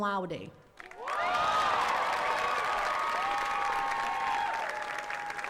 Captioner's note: attendees cheering and clapping